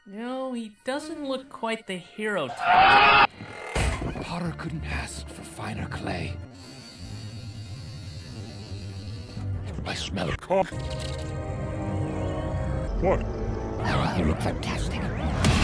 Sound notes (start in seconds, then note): 6.5 sniffffffff